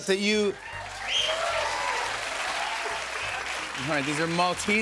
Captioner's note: cheers and applause